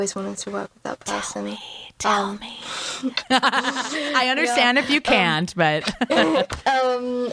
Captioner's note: whispers